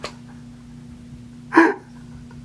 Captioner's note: sobs